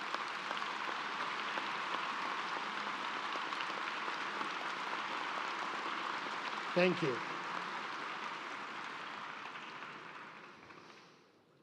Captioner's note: applause